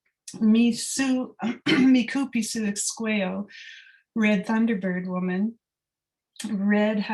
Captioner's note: non-english speech